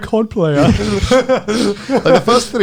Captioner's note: all laughing